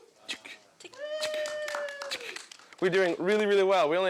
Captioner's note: clicking tongue